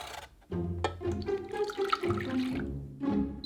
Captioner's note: liquid pouring